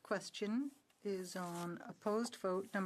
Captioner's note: speaking in French